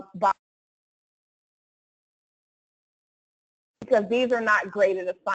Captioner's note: audio cuts out